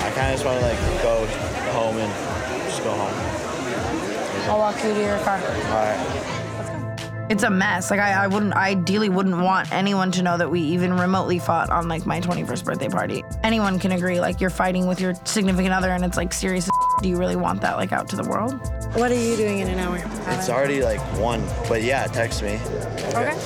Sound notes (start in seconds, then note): 16.6 beep